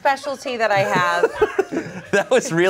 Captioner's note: everyone laughs